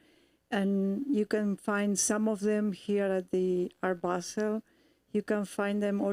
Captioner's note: none